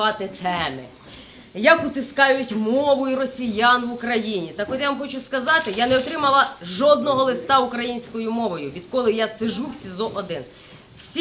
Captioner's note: Russian